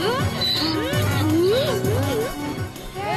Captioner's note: braying